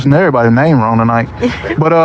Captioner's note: chuckles